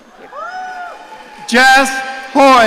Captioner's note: audience cheering